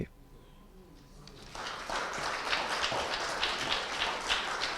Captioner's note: audience applauding